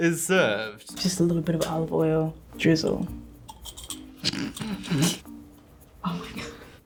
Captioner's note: snickers